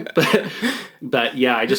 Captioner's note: laughing